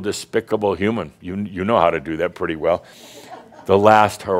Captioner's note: a few chuckles